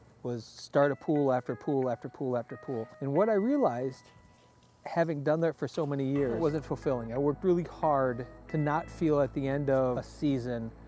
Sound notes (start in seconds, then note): none